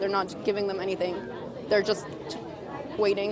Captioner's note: crowd chanting